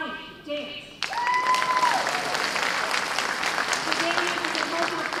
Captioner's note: cheers and applause